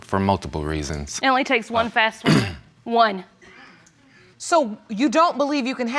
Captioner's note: clears throat